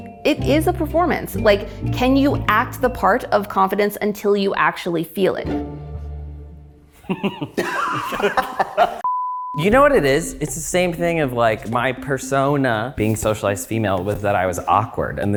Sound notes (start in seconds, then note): 7.0 all laughing; 7.0 laughs